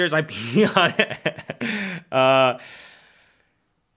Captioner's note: laughs